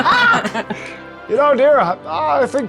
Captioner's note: players laughing